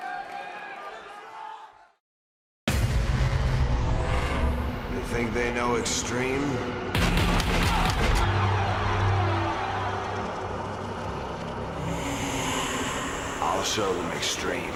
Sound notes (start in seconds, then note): 0.0 crowd cheering; 7.0 crowd cheering; 14.5 crowd cheering